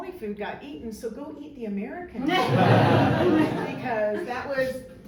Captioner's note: crowd laughs